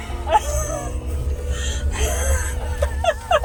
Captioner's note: laughter